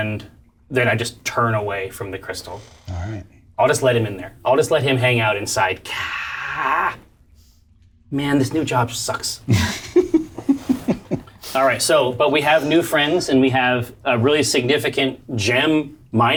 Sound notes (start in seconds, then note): 5.9 groans; 9.5 all chuckle